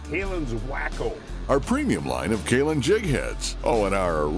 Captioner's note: voiceover